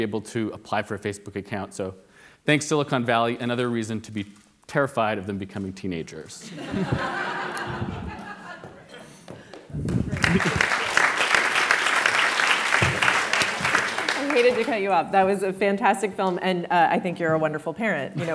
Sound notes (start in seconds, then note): 6.4 audience laughs; 9.4 audience applauds